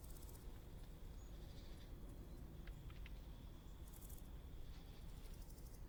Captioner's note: insects chatter lightly